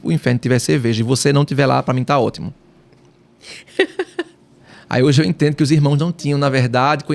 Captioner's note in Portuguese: risadas